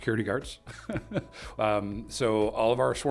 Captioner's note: chuckles